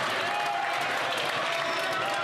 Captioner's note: some Applause